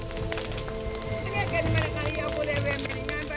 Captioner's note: fire crackling